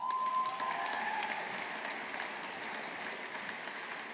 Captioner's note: audience applauding